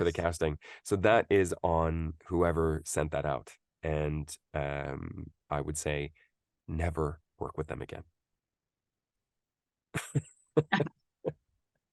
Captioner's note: laughs